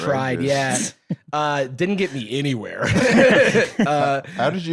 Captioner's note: laughs